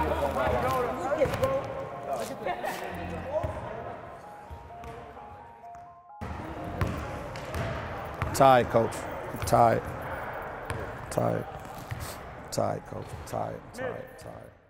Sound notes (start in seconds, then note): 3.3 overlapping chattering